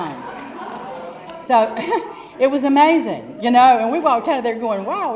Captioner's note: laugh